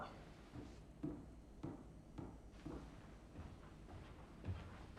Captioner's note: footsteps retreating